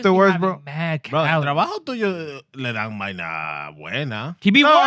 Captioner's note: speaking Spanish